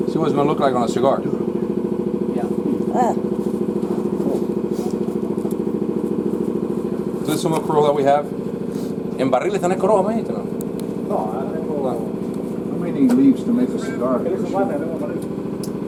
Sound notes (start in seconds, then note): 4.7 speaks Spanish